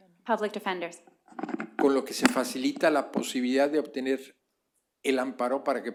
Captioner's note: spanish